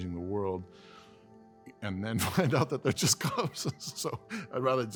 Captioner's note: laughter